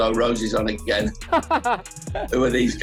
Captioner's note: laughs